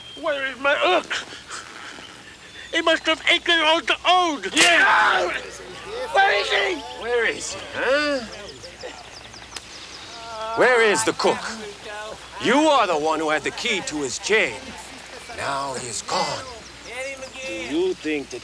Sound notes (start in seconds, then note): 4.5 Bruto screams